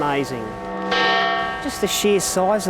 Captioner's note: bell tolls